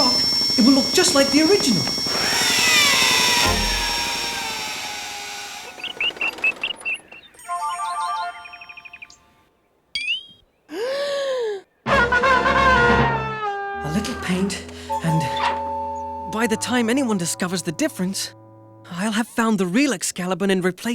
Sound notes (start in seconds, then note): 2.9 drilling; 7.0 birds chirping